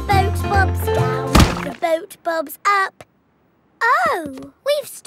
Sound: thuds

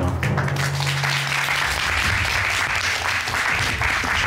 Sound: applause

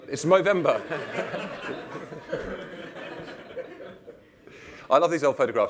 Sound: laughter

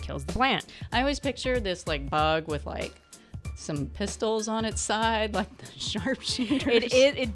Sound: laughs

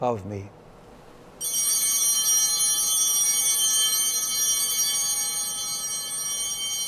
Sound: altar bell ringing

